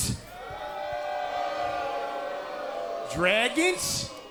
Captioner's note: cheers & applause